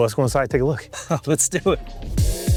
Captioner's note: chuckles; upbeat music